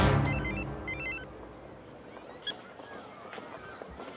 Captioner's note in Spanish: suena el celular